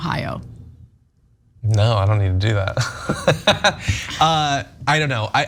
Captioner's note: laugh